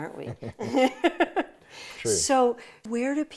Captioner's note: both laughing